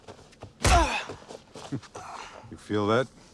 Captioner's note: blow thudding; Homer groans; laughs